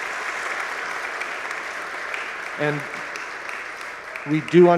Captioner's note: audience applause